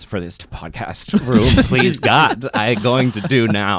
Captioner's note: laughs